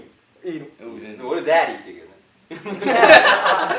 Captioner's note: english tone